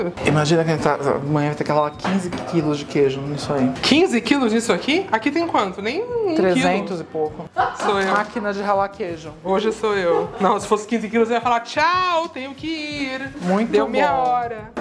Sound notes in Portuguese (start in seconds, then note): 7.5 risos